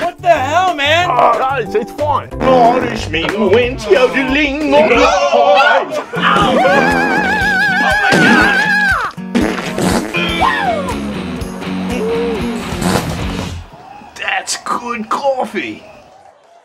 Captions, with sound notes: What the hell man! It's fine. 'The Irishmen went yodeling on a' (SCREAMS) Owe! (FART SOUNDS) Oh, my gosh! (SPRAY) (FART SOUND) Wow! CRASH That's good coffee!